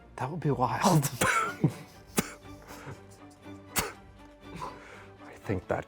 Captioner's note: stifling laughter